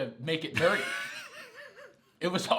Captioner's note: laughs